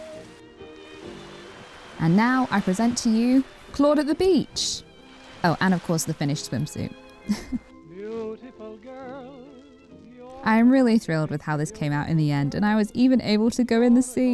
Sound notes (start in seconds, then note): 2.0 gentle waves; 2.0 stream trickles; 7.2 giggle